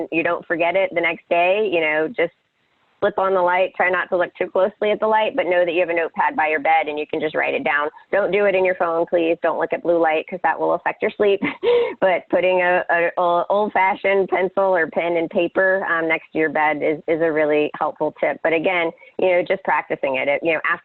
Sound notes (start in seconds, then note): 11.7 laughs